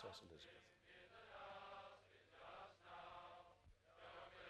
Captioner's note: crowd